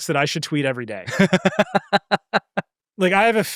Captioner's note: laughing